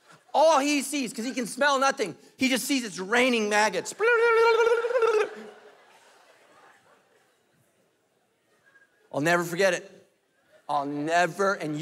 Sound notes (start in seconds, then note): 5.2 lips tinkling